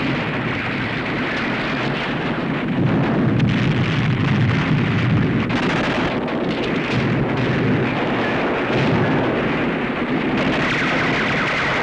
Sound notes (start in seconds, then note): 2.9 explosion; 5.4 gunfire